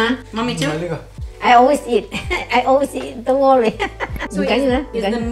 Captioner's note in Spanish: Risas